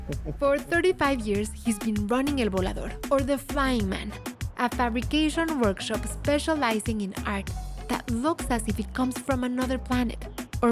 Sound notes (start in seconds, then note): none